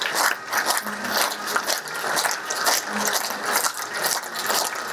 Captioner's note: synchronized clapping